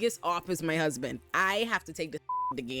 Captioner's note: beep